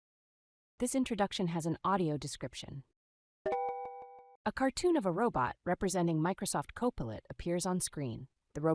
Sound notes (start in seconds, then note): 3.4 computer chime noise